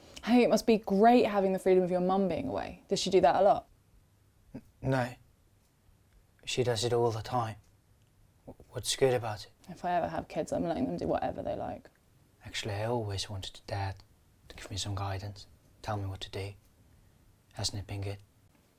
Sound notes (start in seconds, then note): none